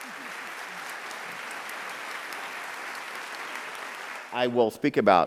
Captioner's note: audience applauding